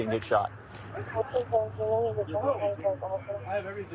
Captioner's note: radio chatter